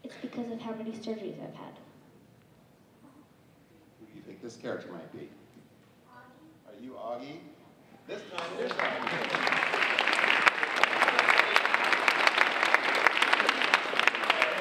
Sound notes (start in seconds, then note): 8.2 audience applauding